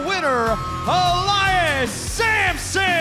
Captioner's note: bell ringing